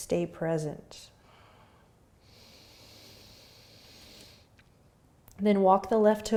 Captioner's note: breathing